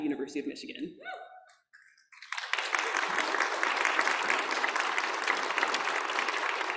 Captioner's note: audience clapping and cheering